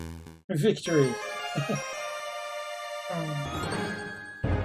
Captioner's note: friendship fanfare; chuckles